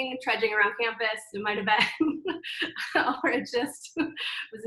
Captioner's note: laughs